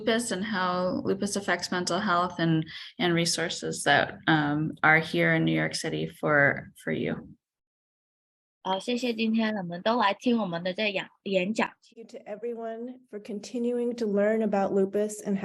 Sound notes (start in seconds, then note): 8.6 speaking chinese